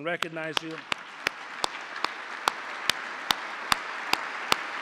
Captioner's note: applause